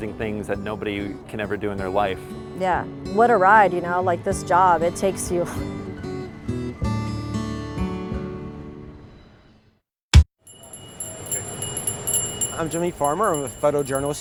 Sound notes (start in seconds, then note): 6.1 bright acoustic music; 10.4 bell chiming